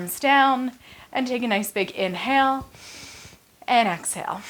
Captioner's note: exhales; inhales